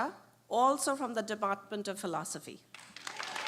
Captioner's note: applause